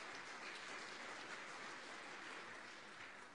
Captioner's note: applause